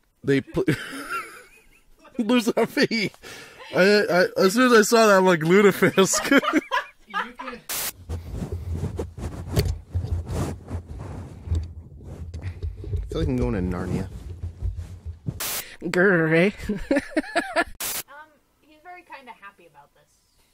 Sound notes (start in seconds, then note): 0.5 laughter; 5.4 laughter; 7.8 scuffling of blankets and microphone cable; 14.6 scuffling; 16.7 laughing